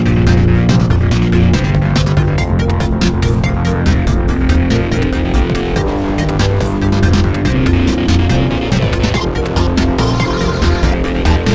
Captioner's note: engine revving